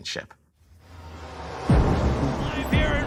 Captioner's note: crowd cheering